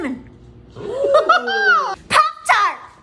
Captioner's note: giggling